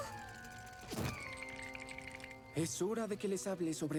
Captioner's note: teeth chattering